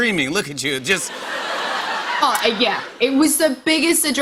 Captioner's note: laughter